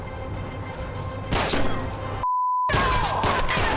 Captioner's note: gunshot